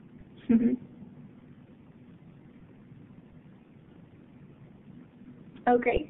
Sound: silence

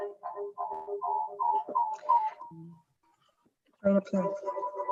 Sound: echo squelching

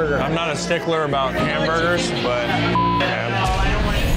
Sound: beep

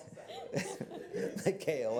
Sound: laughter

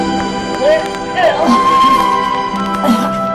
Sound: Roset grunting

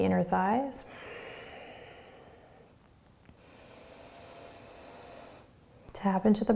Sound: deep breathing

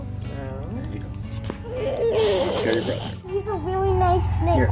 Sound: cries

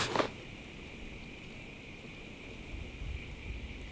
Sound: quiet evening sounds

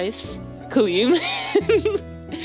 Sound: evil laughter

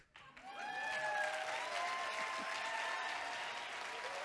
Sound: audience cheering

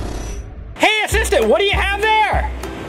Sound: voiceover

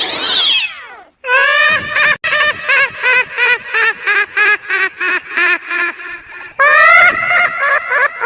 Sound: loud laughter

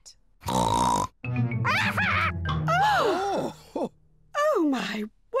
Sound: polly laughs; all gasp

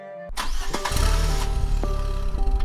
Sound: car engine starts

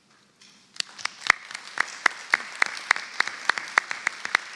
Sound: audience clapping

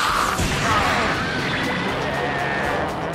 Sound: thu-clank!!!

